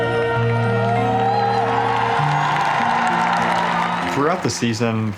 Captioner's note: applause